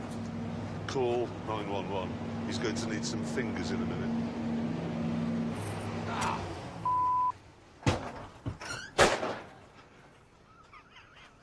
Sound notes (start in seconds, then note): 6.1 engine off; 7.2 clattering; 10.4 laughs